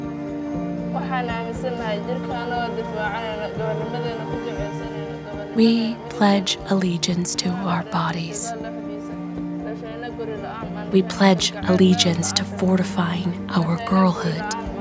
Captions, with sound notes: [speaking Somali] We pledge allegiance to our bodies. We pledge allegiance to fortifying our girlhood,